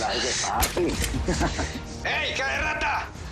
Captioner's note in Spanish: Risas